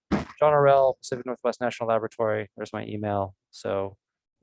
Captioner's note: microphone Interference